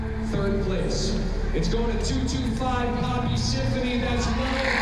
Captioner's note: cheers and applause